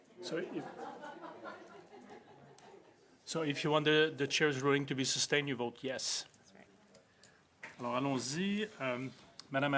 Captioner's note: laughter